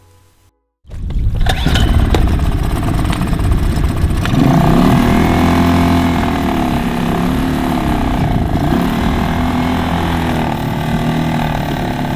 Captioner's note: the sound of starting of a two-stroke engine in neutral